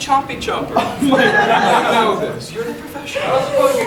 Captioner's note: audience laughing